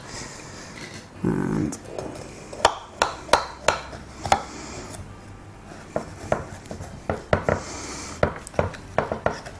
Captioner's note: cutting noises